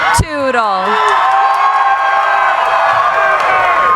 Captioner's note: cheering